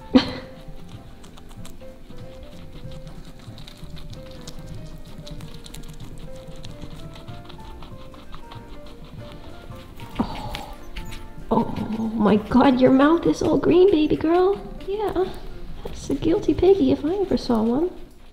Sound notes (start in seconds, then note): 0.0 chuckles; 1.4 guinea pigs chewing